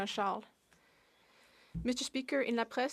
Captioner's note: speaking French